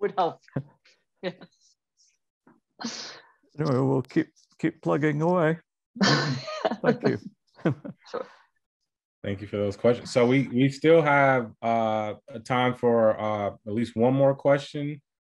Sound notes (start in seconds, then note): 7.6 laughing